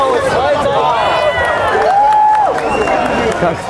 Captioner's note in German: Jubel, Applaus; Pfiffe